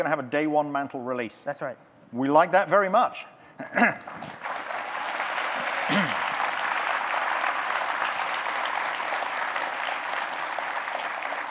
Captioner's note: audience cheers, claps